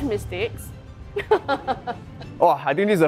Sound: laughs

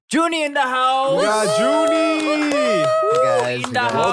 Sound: cheering

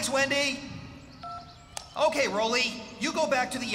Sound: phone Beeps

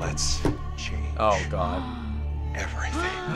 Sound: gasps; both gasp

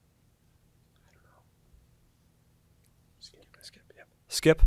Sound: students whispering

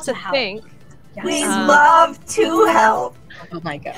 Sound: through a voice modulator

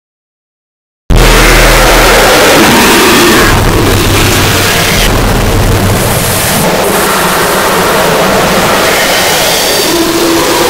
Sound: sound of very intense hell

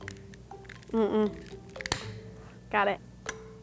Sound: lighter clicking

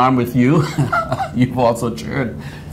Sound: laughs

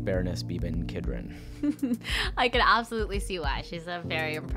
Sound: chuckling

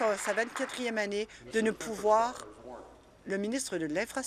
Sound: applause

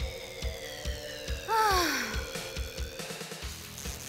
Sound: sigh

